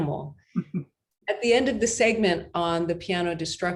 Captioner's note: chuckles